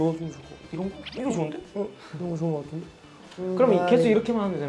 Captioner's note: sound effect of ideas coming together in sync